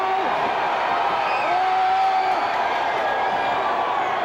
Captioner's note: crowd cheers